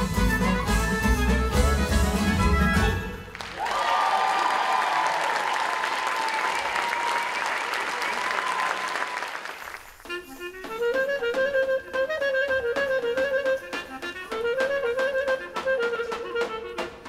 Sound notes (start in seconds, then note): 4.9 audience applauding; 13.6 clarinet playing solo